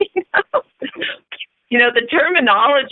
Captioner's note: chuckle